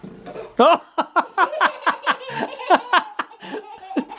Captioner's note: laughing